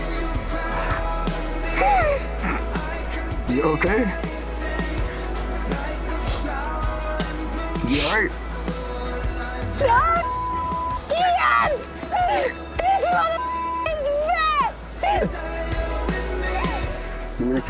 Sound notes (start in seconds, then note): 0.1 upbeat music continues; 10.1 beep; 13.4 beep